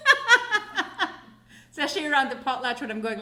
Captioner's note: laughing